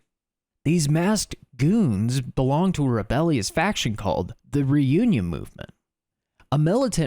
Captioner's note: Normal Sandman voice